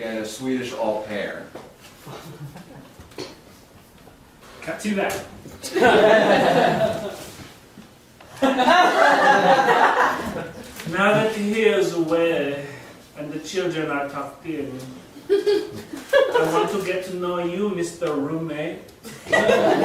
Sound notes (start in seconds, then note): 5.6 audience laughing; 8.7 in Swedish accent